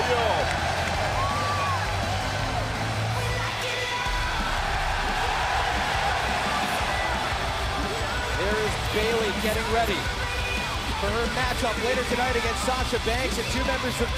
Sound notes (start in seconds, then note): 2.6 crowd cheering